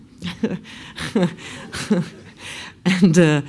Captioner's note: laughs